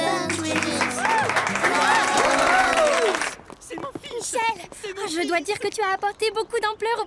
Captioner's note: applause